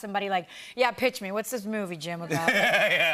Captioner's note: laughter